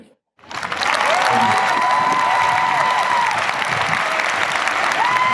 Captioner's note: audience cheers and applauds